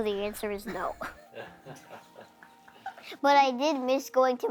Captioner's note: group chuckling